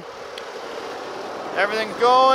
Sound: machinery engine roars

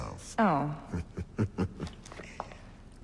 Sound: Cesare laughs

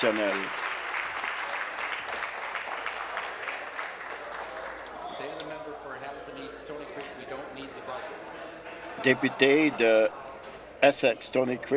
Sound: applause

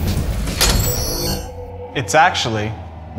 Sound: doors clacking; doors humming

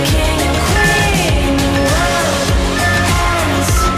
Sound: timer beeping

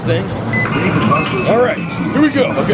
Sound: machine beeps

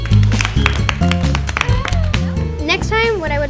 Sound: applause

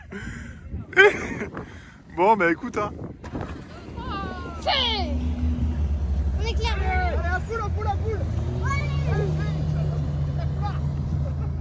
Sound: laughs

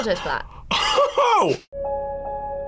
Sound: laughs

